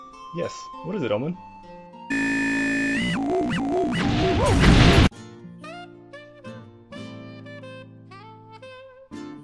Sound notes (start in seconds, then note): 3.4 loud explosions; 3.7 glass shattering